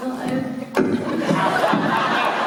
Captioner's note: microphone makes popping noise